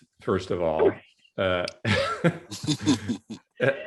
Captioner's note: laughs